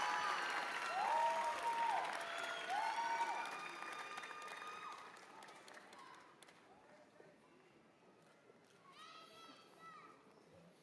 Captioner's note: cheers and applause